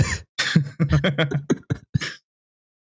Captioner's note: chuckles softly